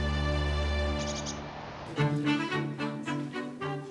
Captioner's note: birds chirping